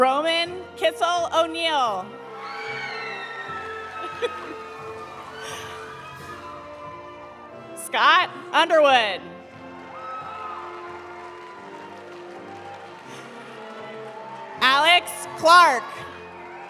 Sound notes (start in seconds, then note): 2.3 audience cheering; 2.3 audience applauding; 9.4 audience applauding; 9.7 audience cheering; 15.6 audience applauding; 16.3 audience cheering